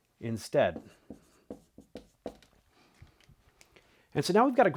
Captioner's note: marker scratching